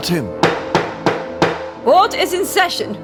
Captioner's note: hammer sounds